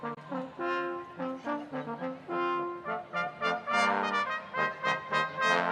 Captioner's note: none